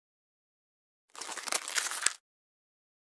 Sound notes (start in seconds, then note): 1.1 sound of crumpled paper